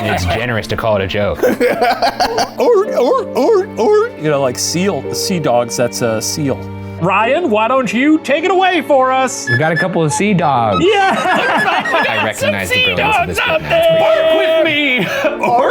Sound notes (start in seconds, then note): 1.4 laughs; 1.4 chuckles; 2.6 The Professor mimics sea dog bark; 10.7 laughs